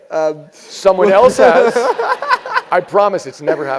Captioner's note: laugh